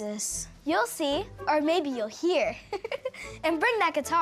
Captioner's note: Ellie laughs